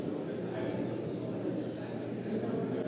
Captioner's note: crowd chatter